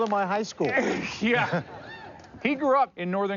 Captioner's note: chuckles